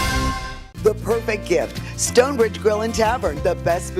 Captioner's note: voiceover